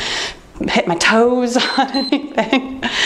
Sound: timer beeps; laughing

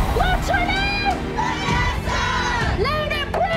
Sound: crowd

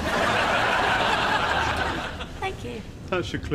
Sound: audience laughs

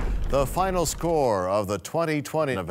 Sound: crashing sound

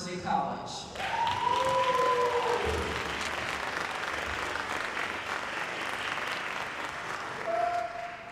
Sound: applause

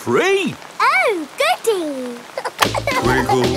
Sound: giggling

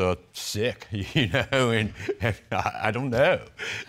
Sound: chuckles softly

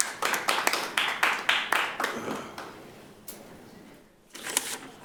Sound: light applause

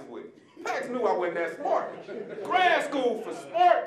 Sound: audience laughing

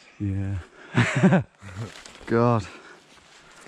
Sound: laughing

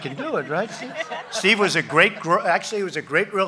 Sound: laughter

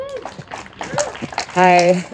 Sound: audience applauding and cheering

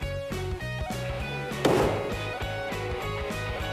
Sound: gunshot

